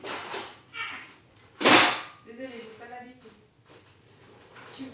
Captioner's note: sound of dishes